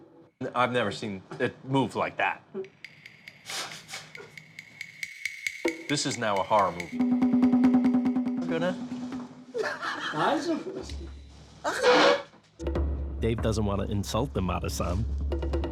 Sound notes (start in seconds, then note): 3.5 chuckles; 9.5 laughs